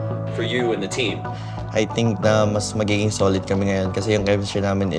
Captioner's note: in Tagalog